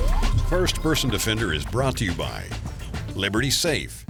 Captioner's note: electronic music; voiceover